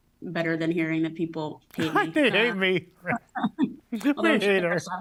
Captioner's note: laughs